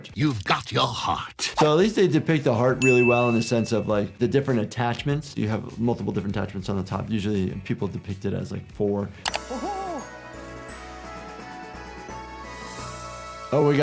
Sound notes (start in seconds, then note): 9.2 click; 10.7 uplifting music